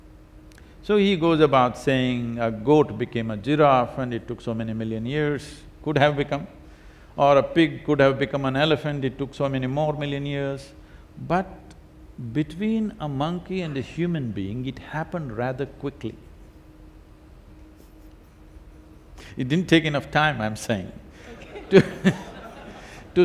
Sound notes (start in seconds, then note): 17.9 laughs; 21.2 laughter